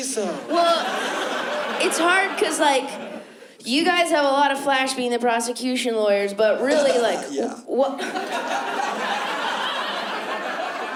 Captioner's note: laughs